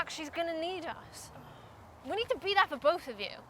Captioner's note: scoffs